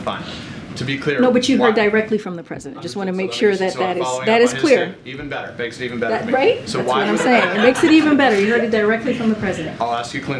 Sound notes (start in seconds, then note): 6.9 laughter